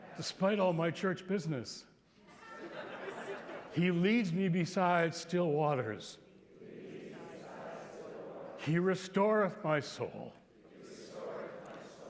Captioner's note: laughter